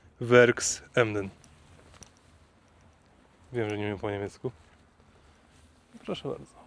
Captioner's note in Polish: coś po niemiecku